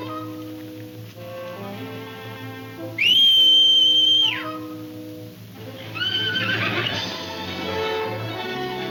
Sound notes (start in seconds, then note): 2.9 Jim whistles; 5.7 horse whinnies